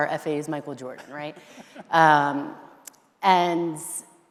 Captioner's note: laughing